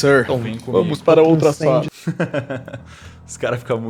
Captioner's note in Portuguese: Risada